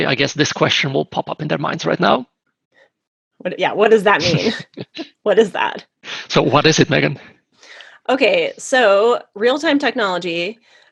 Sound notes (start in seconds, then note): 4.0 laughs